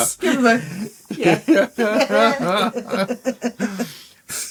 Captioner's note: laughing